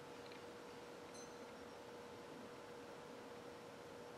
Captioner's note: timer beep